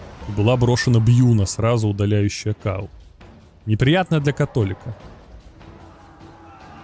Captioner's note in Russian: крик